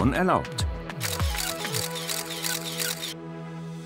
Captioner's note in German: Schnelles Fotoklicken